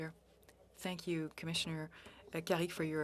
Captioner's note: speaking FRENCH